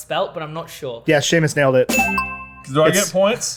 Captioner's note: bell dings